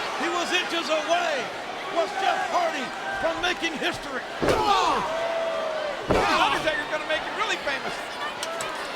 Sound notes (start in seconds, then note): 4.6 Jeff groaning